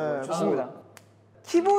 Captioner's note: snap